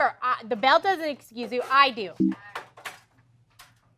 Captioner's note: error sound